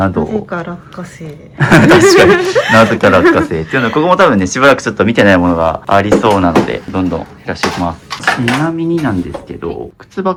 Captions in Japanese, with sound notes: なぜか落下性。 確かになぜか落下性っていうのここも多分ね、しばらくちょっと見てないものがありそうなのでどんどん減らしておきます。ちなみになんですけど靴箱の中でもリンダさんのスペースっていうのはどの辺りになりますか? [笑い]